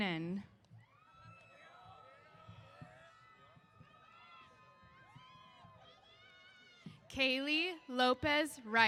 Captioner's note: cheers